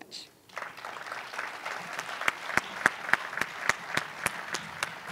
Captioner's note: applause